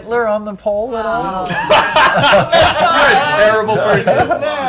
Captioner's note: groaning